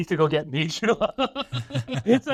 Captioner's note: laughs